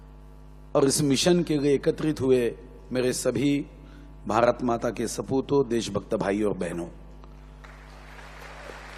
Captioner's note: applause